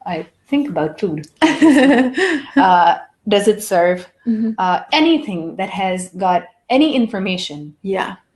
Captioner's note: laugh